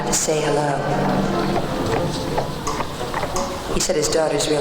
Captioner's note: horse hooves clopping